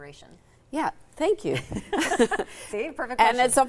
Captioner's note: laughing